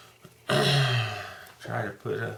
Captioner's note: clears throat